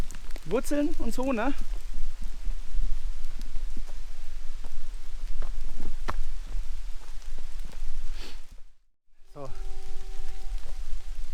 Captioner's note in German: Man hört einen Zug pfeiffen